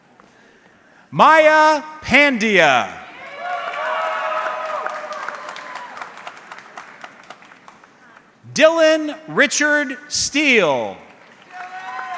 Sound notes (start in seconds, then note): 3.2 audience clapping